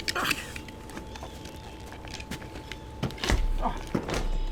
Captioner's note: Floyd grunting